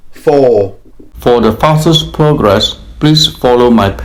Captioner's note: voiceover